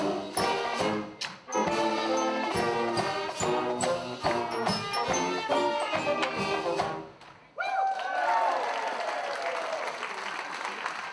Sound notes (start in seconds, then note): 7.5 all cheering